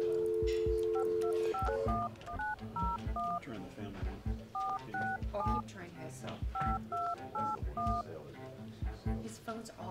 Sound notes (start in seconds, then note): 0.2 clock ticking; 2.3 phone dialing